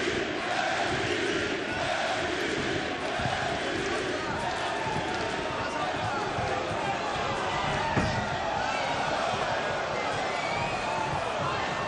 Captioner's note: crowd chanting